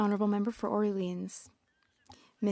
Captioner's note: speaking French